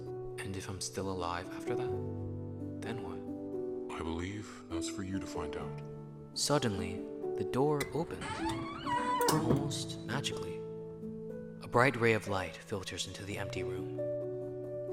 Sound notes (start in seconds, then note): none